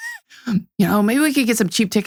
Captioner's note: laughs